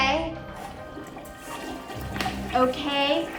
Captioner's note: toilet flushing